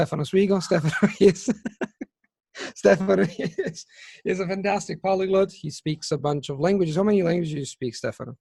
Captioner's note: laughter